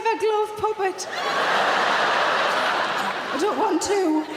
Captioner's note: audience laughing